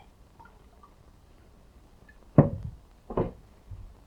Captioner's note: drink clattering